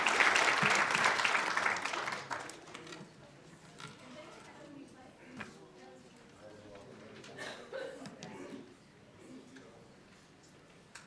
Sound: applause

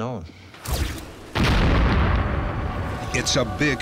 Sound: boom

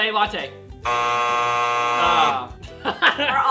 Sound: buzzer

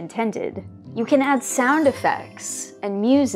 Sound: sparkle sound like an unseen fairy

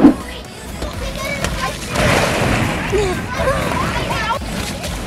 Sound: balls crashing

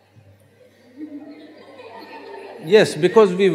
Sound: few Laugh

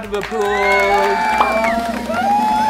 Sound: cheering; drumroll

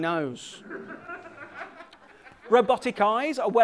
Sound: laughter

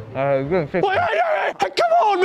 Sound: angry noises

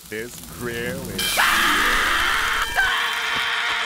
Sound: screaming

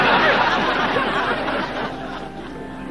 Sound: audience laughing

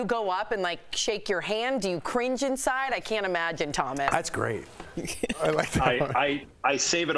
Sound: laughter

